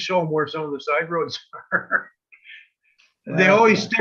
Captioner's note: laughs